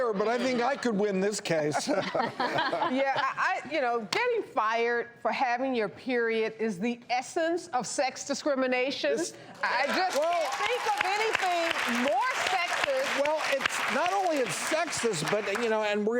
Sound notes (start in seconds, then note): 1.8 laughing; 9.6 applauding